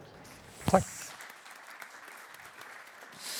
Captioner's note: applause